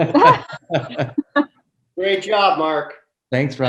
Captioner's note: laughs